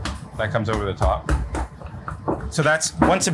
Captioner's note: rolling pin thuds